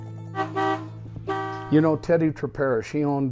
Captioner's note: car horn honking